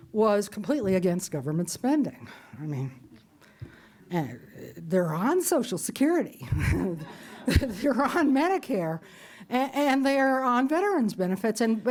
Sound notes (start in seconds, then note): 6.2 laughs; 6.6 audience laughs